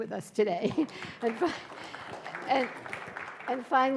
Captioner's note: audience applauding